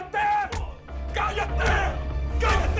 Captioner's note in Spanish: Puñetazos